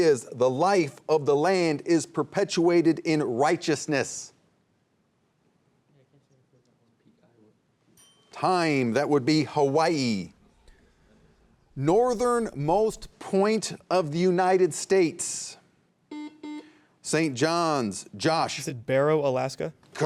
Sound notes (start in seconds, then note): 5.7 bell dinging; 5.7 students whispering; 10.4 students whispering; 16.1 buzzer buzzing